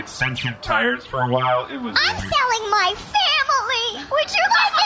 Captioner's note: crying